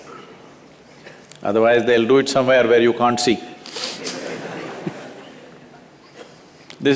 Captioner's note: laughter